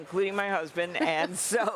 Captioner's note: laughter